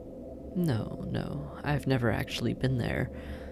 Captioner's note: nonchalant